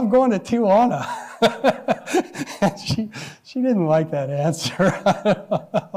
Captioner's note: laughs; laughs